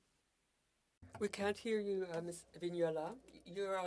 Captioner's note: speaking French